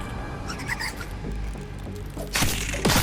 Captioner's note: creature skittering